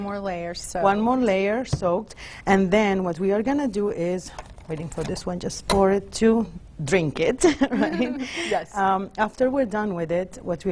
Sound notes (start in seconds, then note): 7.5 chuckles